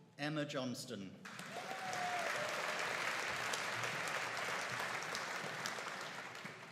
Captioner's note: audience cheering and applauding